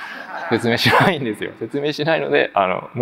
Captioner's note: chuckles